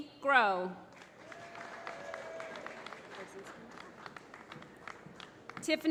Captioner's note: applause